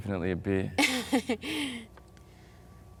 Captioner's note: Harding laughs